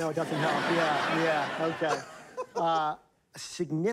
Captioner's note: laughter